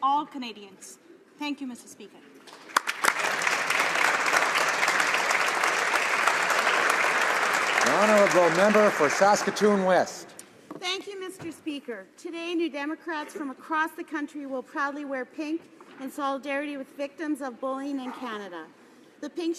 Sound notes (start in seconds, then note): 5.1 applause